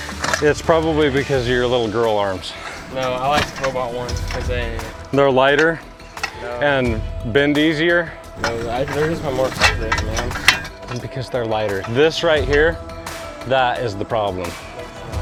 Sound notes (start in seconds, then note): 10.6 metals clanking